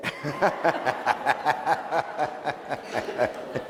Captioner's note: laughing